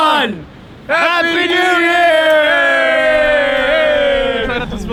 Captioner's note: all cheering